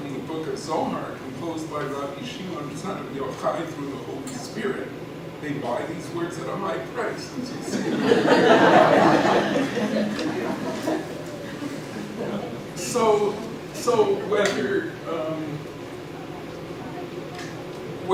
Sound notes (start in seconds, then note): 7.7 laughing